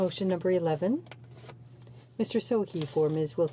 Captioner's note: speaking in French